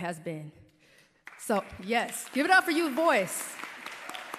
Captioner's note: applause